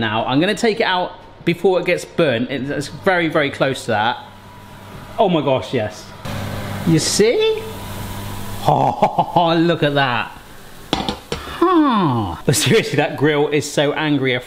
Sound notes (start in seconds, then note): 10.9 pan clatters